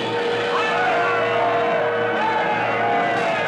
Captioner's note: yelling